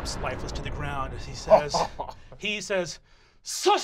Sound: Fabian laughing

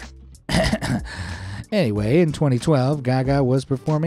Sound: clears throat

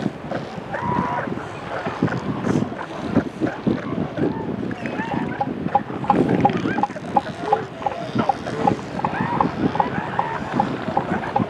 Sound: rhythmic seal calls

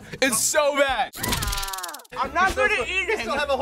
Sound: person screams

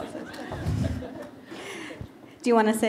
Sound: laughter

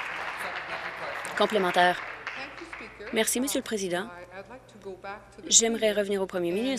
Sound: applause

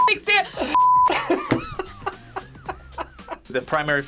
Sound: laughs

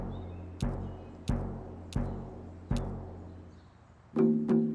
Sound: rhythmic heart beating

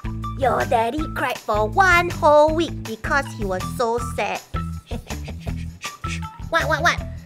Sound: mummy laughs

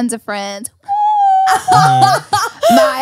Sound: laughs

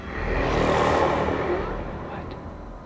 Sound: deep growling

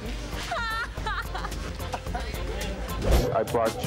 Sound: laughing

